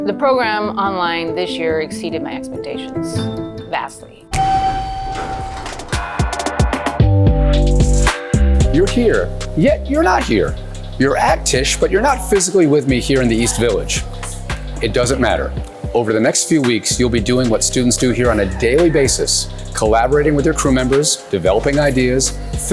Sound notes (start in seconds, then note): 4.3 elevator ding